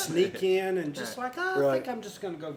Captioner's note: laughs; laughter